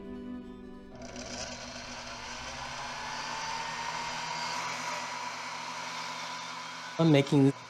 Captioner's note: wood lathe running